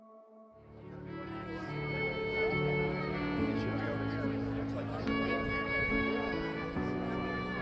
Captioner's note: gentle strings music; people chattering